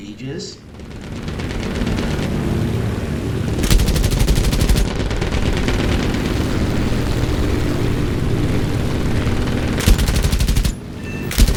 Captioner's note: aircraft Engines ,Gunfire, Flying Sounds